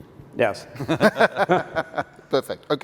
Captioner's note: laughing